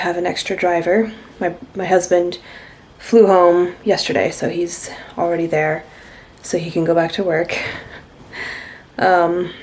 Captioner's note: laughs